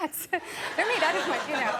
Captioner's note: audience laughing